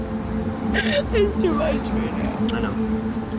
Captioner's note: sobbing